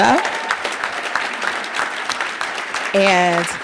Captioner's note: audience applauding